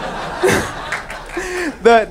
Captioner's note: audience laughing